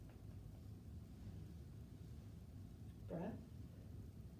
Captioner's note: none